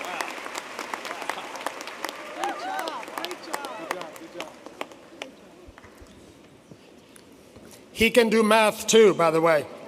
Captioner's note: applause